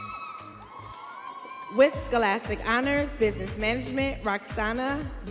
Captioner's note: audience cheering